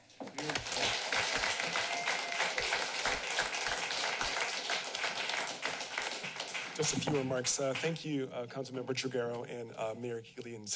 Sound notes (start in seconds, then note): 0.2 applause